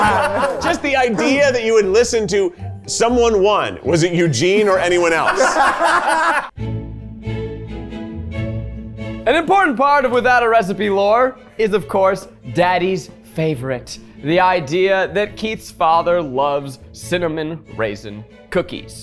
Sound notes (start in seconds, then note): 4.6 everyone laughing; 6.8 sophisticated music